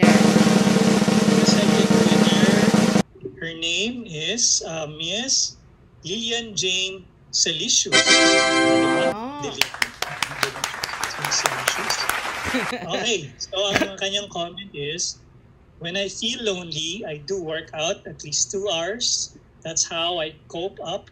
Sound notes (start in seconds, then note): 0.0 drum Roll; 9.4 clapping